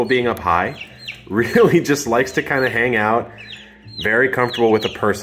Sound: laughs

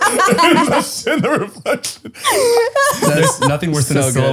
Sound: all laughing

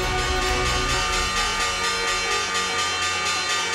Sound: bell ringing

